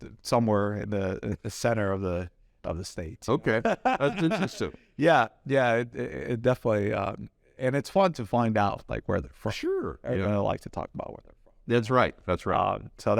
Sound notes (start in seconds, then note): 3.4 laughs